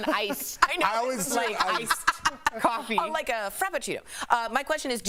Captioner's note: laughter